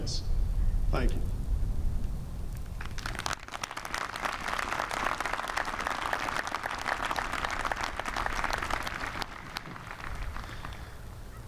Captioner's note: applause